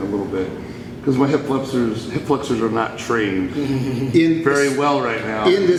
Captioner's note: viking chuckles